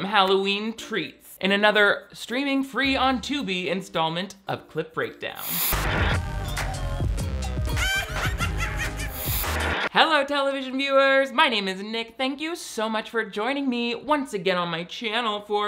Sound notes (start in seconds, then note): 6.0 upbeat music; 7.7 evil cackling